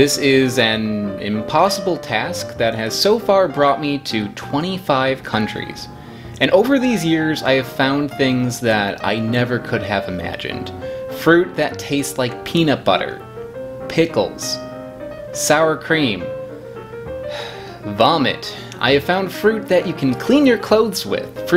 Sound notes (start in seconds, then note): 17.2 sighs